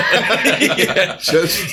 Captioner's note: laughter